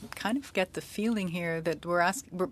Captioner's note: speaking French